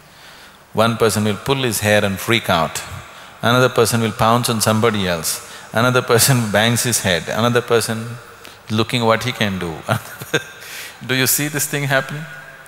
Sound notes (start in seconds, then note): 9.9 laughs